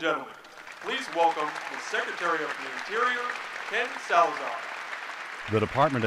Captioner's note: applause